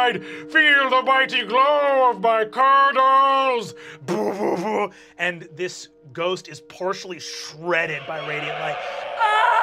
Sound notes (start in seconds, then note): 4.1 mimics explosion; 8.1 screams